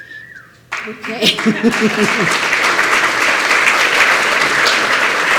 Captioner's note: applause